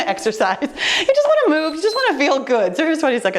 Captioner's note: timer beeps